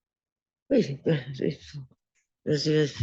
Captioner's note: speaking french